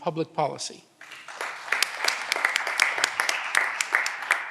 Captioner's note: audience applause